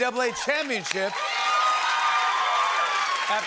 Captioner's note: cheering and applause